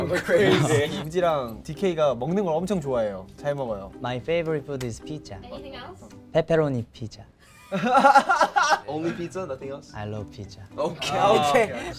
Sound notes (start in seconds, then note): 7.6 laughs